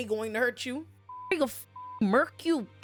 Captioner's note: beep